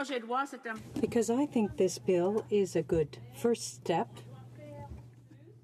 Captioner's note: speaking French